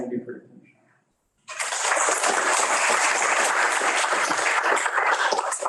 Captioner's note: audience applauding